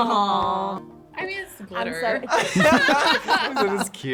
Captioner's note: both laugh